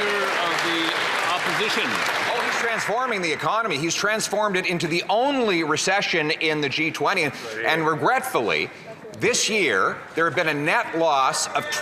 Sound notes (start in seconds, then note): 3.1 some Applause